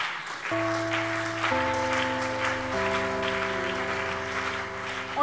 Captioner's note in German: Beifall CDU und BÜNDNIS 90/DIE GRÜNEN